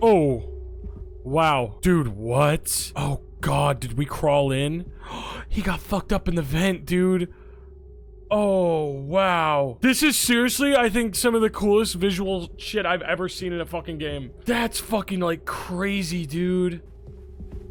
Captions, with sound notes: Oh, wow. Dude, what? Oh god, did we crawl in? (gasps) He got fucked up in the vent, dude. Oh, wow. This is seriously I think some of the coolest visual shit I've ever seen in a fucking game. That's fucking like, crazy, dude.